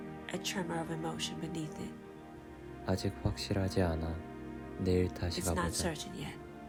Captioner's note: Korean